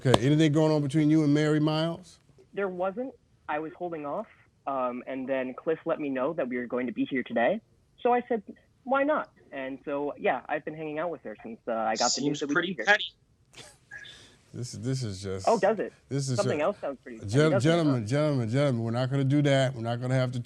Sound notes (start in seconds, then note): 14.6 laughing